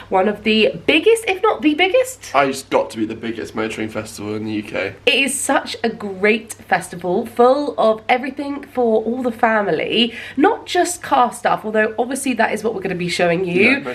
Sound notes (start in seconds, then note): none